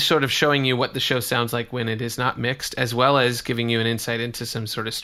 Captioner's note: none